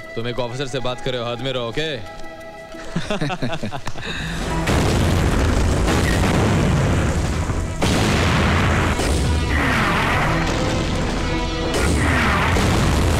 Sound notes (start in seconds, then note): 2.7 Laughs; 4.7 Explosion